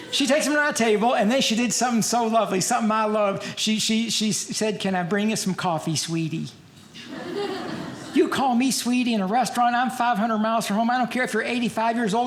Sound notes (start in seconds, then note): 6.9 audience laughing